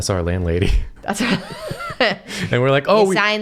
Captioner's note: laugh